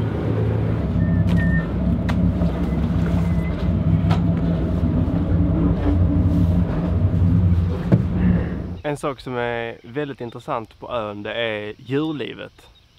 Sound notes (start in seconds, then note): 0.9 casual whistling